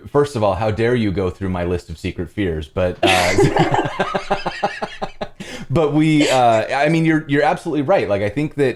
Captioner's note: laughter